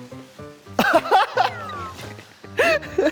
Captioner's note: light steps